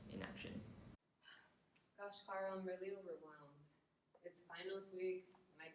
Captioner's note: sigh